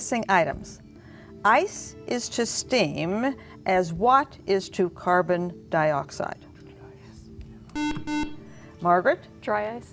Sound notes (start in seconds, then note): 7.7 buzzer